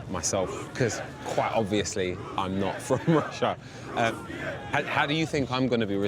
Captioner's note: laughs